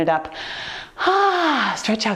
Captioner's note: exhaling